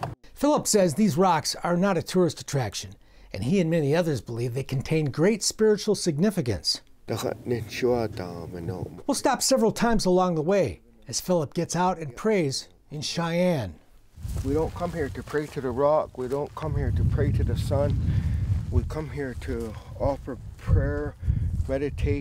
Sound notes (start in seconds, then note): 7.2 he speaks in Cheyenne language